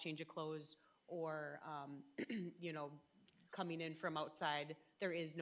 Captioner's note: clears throat